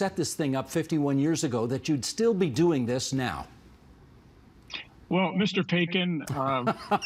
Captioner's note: laughter